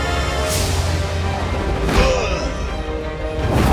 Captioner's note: grunting